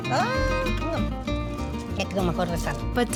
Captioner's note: laughs; speaking Spanish